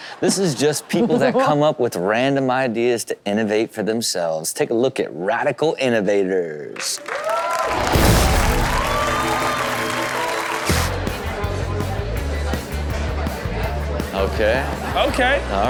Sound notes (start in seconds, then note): 6.9 audience cheers; 10.6 alternative rock music